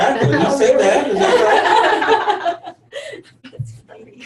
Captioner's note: everyone laughing